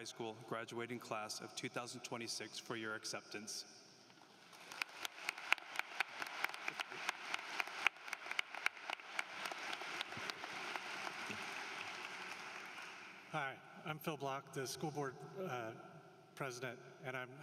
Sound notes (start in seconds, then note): 4.4 applause